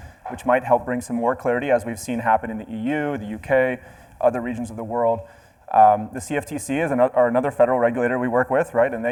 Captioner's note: none